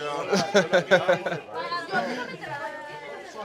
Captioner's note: laughing